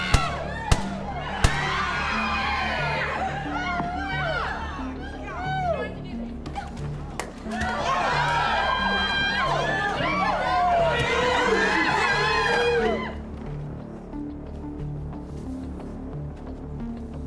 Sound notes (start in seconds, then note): 0.0 people screaming; 0.6 gunshots popping; 7.4 people screaming; 14.5 tense music